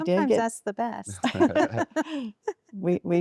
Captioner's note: laughter